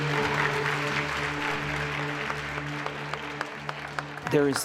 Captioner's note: applause